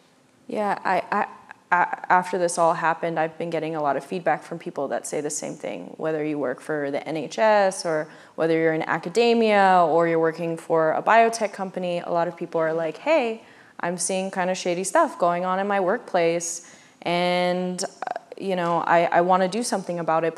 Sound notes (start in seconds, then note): none